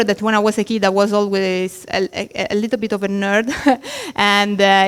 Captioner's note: laughs